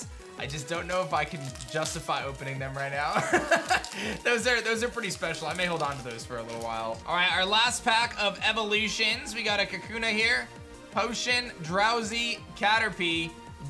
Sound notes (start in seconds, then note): 3.2 laughs